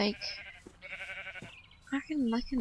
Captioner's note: baaaa